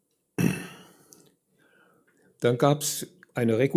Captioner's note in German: räuspern